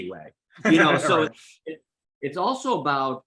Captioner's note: laughs